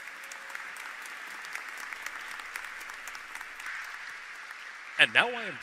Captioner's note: applause